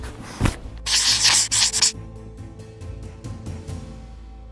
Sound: scratching

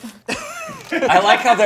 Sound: laughing; camera clicking

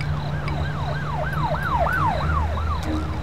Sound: police sirens

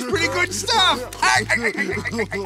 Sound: laughing

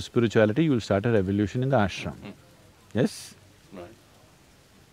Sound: laughs

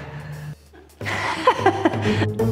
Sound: laughter

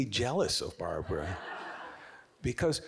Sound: audience giggling

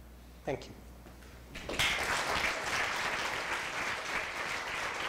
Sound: applause

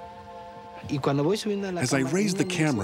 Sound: speaking spanish

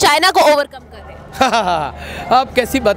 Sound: laughing

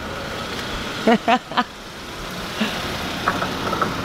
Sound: laughing

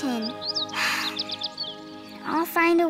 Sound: birds chirping

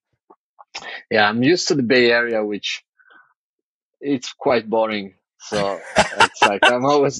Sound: <Laugh>

